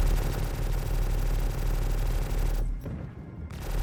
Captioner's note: gun fires